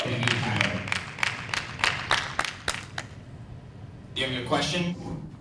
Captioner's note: audience clapping